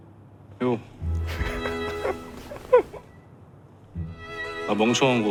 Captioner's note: laughing